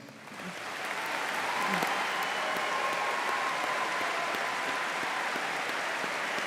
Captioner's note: audience applauding and cheering